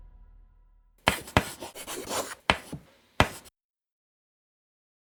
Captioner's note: chalk writing